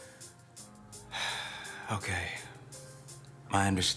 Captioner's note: sighs